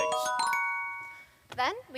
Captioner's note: dings